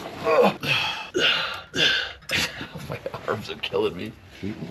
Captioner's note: groaning